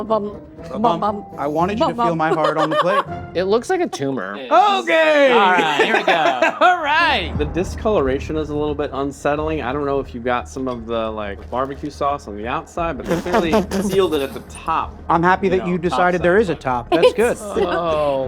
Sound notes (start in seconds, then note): 1.8 laughing; 5.2 laughing; 13.0 sputtering; 16.4 ominous music